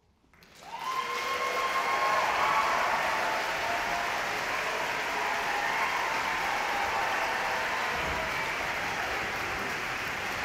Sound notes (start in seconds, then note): 0.3 audience clapping; 0.5 audience cheering